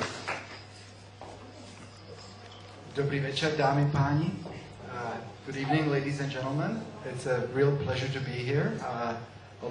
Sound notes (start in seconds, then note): 2.6 non-english